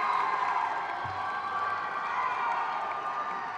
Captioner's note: crowd cheers